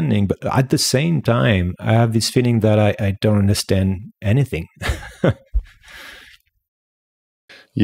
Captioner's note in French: Rires